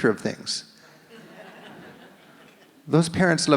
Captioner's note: audience laughs